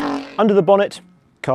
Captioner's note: engine revs